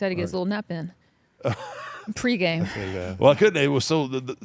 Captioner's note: laugh